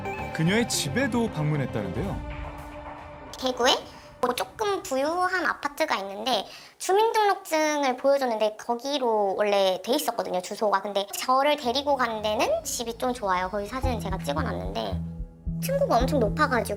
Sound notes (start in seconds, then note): 1.9 voiceover